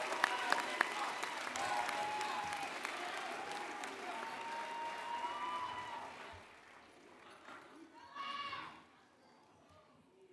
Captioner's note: applause